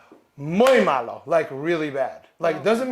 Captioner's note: speaks in a foreign language